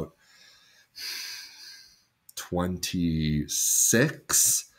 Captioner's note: sighs